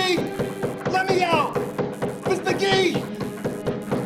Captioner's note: lights buzzing; door thudding; light buzzing